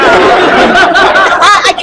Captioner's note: laughter